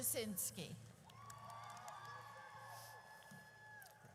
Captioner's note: audience cheers